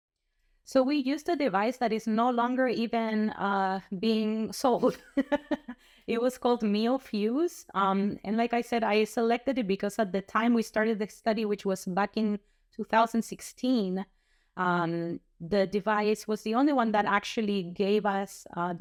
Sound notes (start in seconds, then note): 4.8 laughter